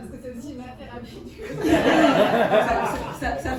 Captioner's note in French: rires